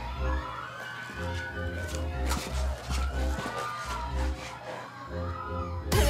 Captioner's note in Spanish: Gritos